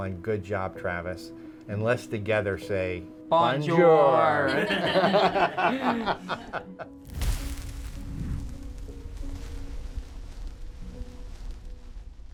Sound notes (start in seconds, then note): 4.2 everyone laughing; 6.6 fire crackling